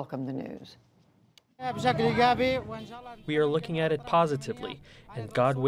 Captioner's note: through translator